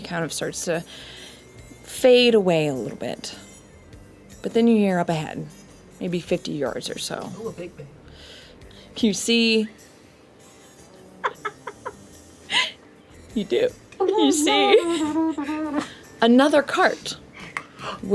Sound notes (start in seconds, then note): 14.0 laughs